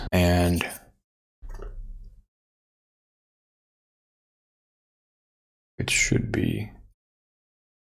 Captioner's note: silence